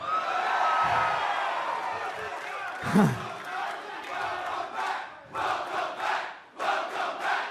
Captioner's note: cheers and applause; fans chanting